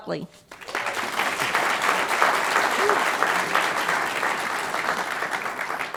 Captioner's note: applause